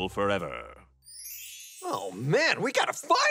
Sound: bright chiming

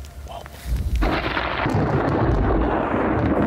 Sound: thunder

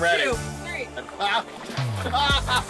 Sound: laughs

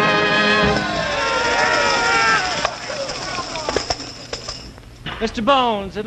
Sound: cheers and tambourines

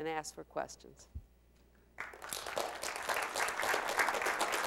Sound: applause

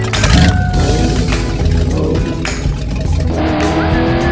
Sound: car engine starts

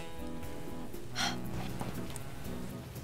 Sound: exhales

